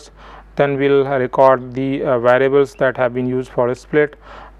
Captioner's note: argument